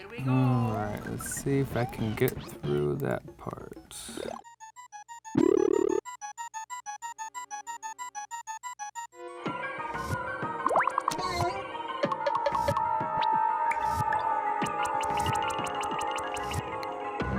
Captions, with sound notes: - Here we go! - All right, let's see if I can get through that part. (intense music) (silly video game noises)